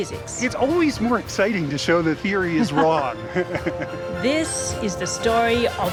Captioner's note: laughs